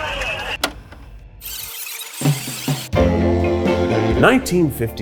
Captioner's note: tape rewinds